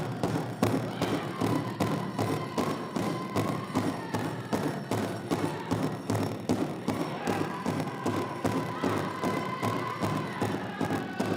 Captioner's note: chanting